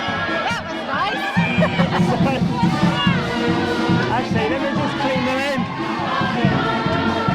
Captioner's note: laughter